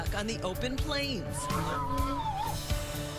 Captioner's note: donkey braying